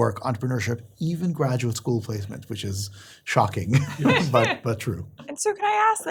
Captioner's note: laugh